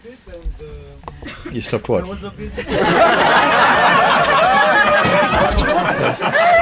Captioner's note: laughter